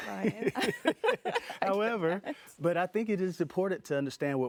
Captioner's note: laughing